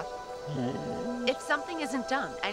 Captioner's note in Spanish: Alvar gruñendo